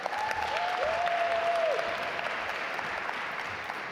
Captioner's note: audience applaud